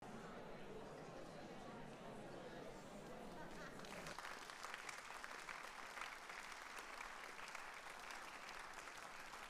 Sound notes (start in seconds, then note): 3.8 audience applauding